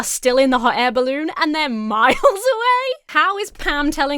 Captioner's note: Emma giggles